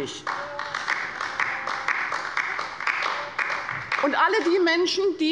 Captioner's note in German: Beifall bei der LINKEN